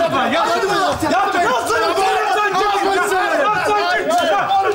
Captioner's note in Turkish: bağrışmalar